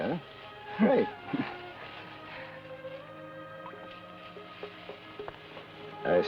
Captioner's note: chuckles